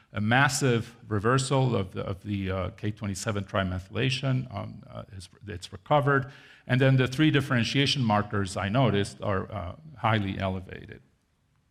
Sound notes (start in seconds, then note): none